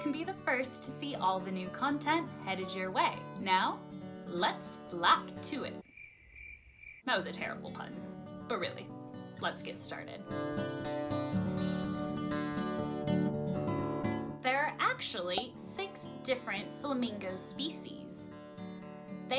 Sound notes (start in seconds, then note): 5.8 crickets